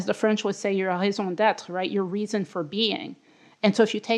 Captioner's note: french